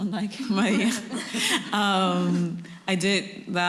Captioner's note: laughter